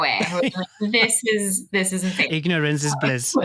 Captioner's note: both laughing